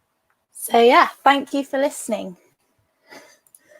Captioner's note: sighs